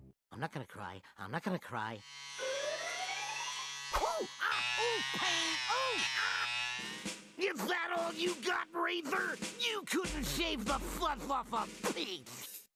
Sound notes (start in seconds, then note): 2.0 buzzing; 4.0 Daffy groaning